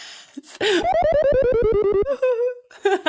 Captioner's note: dog laughing